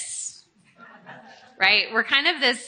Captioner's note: audience chuckling